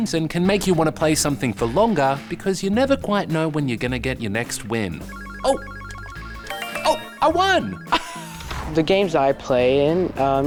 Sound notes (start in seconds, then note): 5.0 game beeps; 7.8 laughs